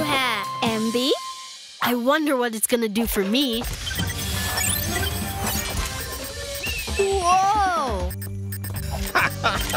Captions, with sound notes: I love my new hair! - MB? - I wonder what it's gonna do for me. (beeping) - Whoa!